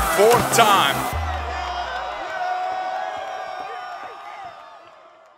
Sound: crowd cheering

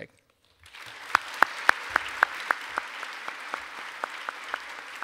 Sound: audience applauding

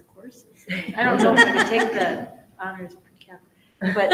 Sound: all laughs

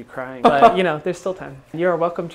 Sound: he laughs

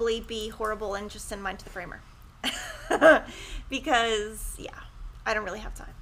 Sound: laughing

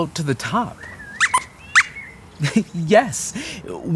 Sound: squeaks squeaks

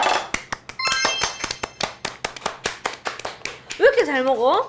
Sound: applause

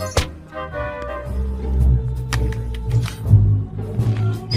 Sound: nails screech

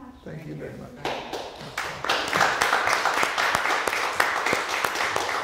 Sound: audience applauding

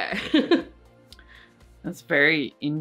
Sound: laughs

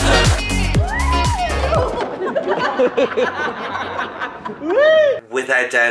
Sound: laughs

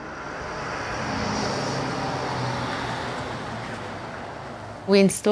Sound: truck passing

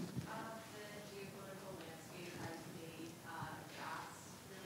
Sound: student speaking faintly

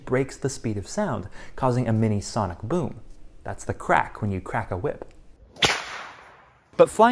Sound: bullwhip cracks

